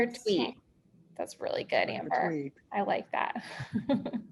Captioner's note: laughs